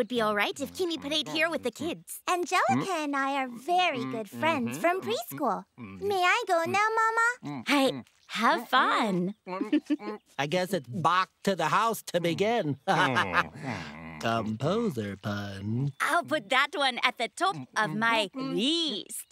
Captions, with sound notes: if Kimi played here with the kids. Angelica and I are very good friends from preschool. May I go now, Mama? Hey, have fun. I guess it's bach to the house to begin. [laughing] Composer pun. I'll put that one at the top of my least .